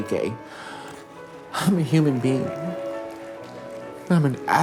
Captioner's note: audience applauding